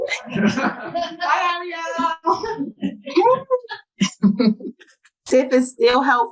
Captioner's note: laughs